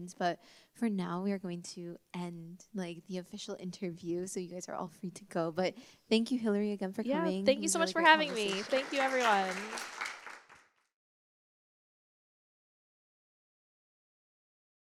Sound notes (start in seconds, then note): 9.7 applause